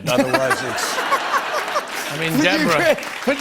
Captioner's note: laughter and applause